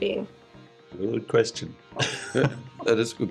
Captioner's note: chuckles